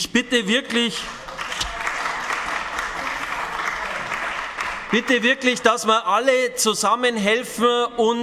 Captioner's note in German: Beifall bei den GRÜNEN